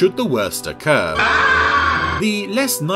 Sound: screams terrifyingly

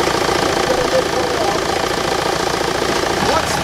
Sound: crew chattering

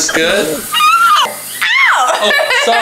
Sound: screeching; laughs

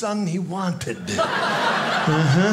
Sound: audience laughing

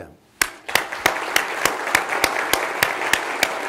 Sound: applause

